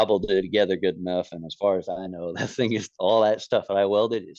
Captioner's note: laughs